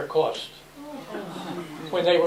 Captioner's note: oh! Gasps